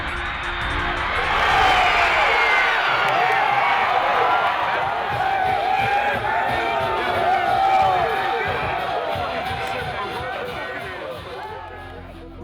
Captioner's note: cheering; cheering increases